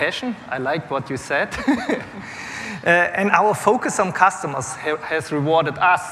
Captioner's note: laughter